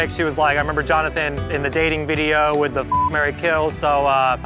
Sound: beep

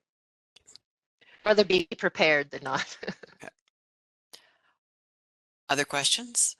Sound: laugh

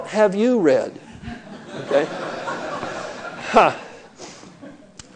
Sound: laughing

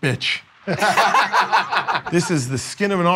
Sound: laughter

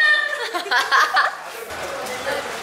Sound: laughing

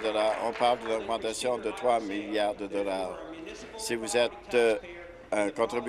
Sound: applause

